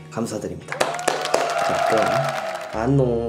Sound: applause

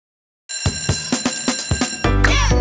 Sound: bell ringing

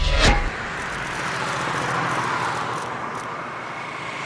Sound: numbers click

